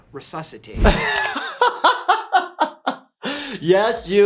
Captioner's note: laughing